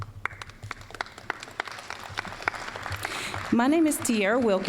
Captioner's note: applause